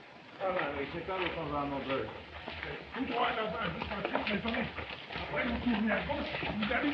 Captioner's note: all chattering